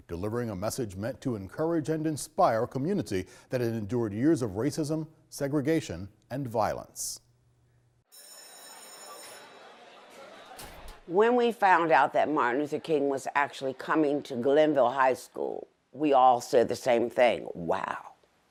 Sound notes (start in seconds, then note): 8.1 bell ringing; 9.0 students chatting